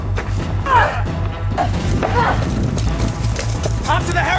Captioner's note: yells